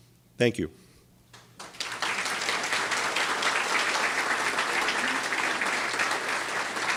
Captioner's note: audience applauding